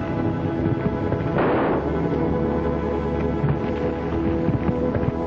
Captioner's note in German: Schuss feuert